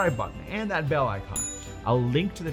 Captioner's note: bell rings; bell chimes